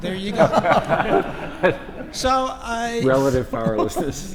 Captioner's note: laugh